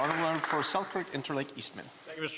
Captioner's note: applause